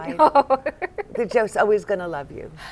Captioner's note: laughter